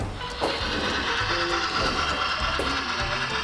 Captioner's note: train whirs